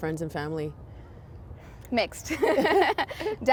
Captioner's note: laughing